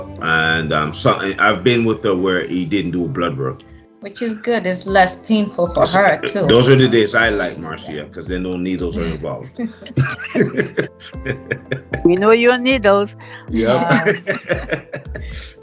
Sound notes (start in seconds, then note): 13.6 laughter